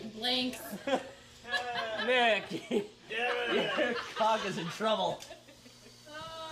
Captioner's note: laughs